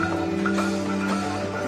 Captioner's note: clanging begins